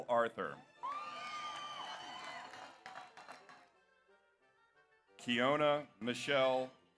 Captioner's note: audience cheers; audience applauds